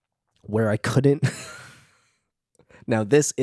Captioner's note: laughs